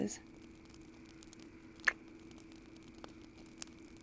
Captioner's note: kiss